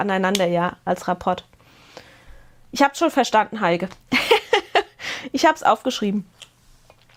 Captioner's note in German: Gelächter